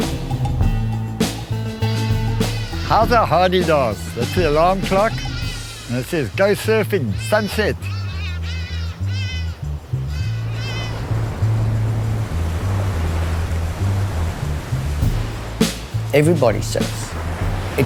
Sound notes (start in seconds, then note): 0.1 funky music; 8.6 Hadeda Ibis squawk; 11.6 waves crashing